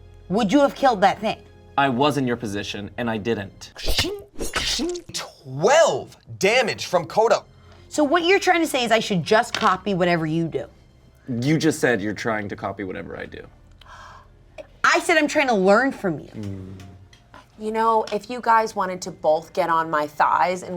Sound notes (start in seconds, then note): 3.8 making sword noises